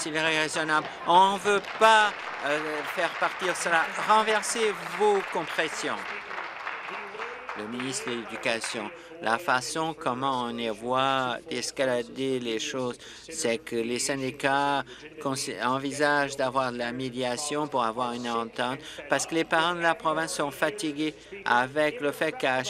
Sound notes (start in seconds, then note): 7.6 applause